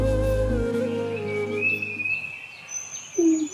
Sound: birds chirping

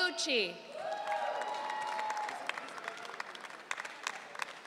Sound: audience cheering

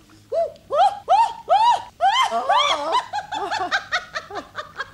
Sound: shrieks and laughs

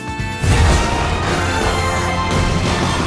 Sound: grunting

